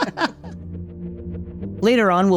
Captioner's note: both laughing